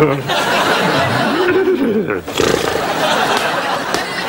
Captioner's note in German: Imitiert Pferd